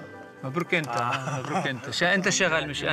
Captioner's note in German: Ägyptisch sprechend